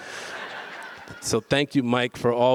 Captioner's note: audience laughs